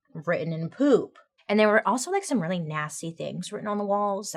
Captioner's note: none